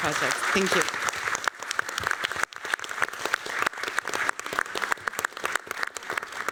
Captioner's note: applause